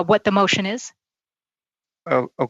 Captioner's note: speaking French